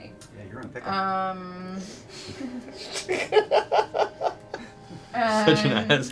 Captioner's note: laughter